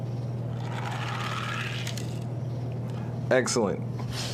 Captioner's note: toy car grating